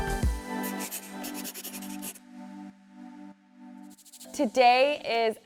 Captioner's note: pencil scratching